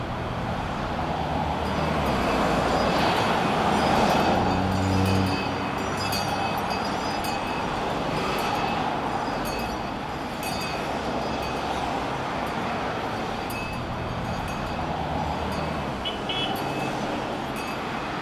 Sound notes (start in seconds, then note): 1.8 a distant jingling bell; 15.2 honking cars